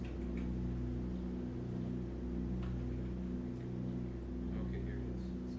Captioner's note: aircraft engines sounding